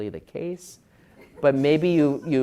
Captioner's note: laugh